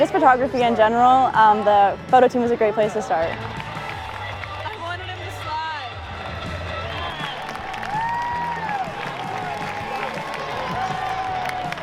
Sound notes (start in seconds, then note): 6.5 cheering, applause